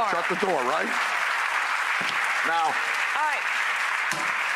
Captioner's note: audience cheers